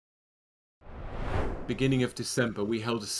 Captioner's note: screen swooshing